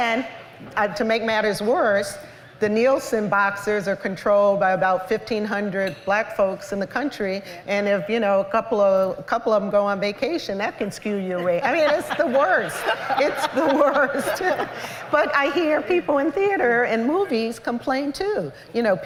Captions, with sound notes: And to make matters worse, the Nielsen boxes are controlled by about 1,500 Black folks in the country. And if a couple of them go on vacation, that can skew your way. [LAUGHTER] It's the worst. It's the worst. But I hear people in theater and movies complain too.